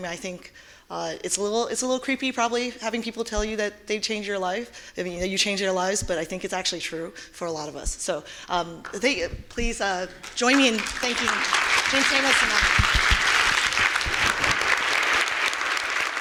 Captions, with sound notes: I think it's a little creepy, probably, having people tell you that they've changed your life. I mean, how you change their lives, but I think it's actually true for a lot of us. So please join me in thanking (audience applauding) James Schamus and Ang Lee.